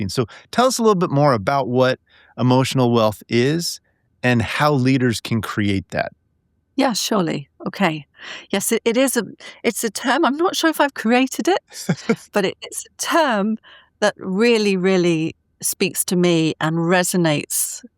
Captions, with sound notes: So tell us a little bit more about what emotional wealth is and how leaders can create that. -Yes, surely. Okay. Yes, it is a... it's a term— I'm not sure if I've created it, (laughing) but it's a term that really, really speaks to me and resonates